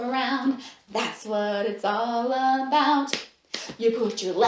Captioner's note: clap, clap